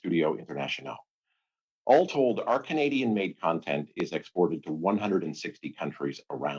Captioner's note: speaking French